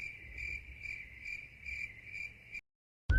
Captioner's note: cricket noises. not the game